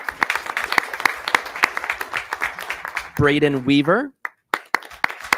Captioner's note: people clapping